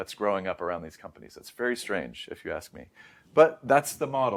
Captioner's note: inhales